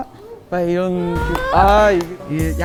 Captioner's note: clap